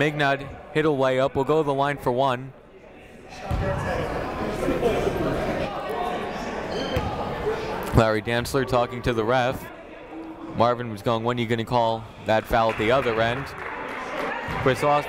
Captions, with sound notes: Mignot hit a lay up, will go to the line for one. (chatting) Larry Dantzler talking to the ref. Marvin was goin', "When you gonna call that foul "at the other end?"